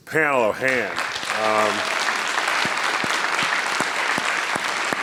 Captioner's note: people clapping